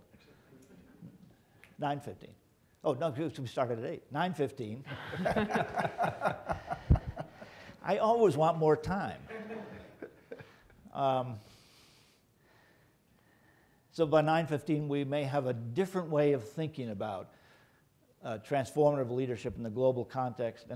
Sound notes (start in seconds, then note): 4.9 chuckling; 4.9 laughing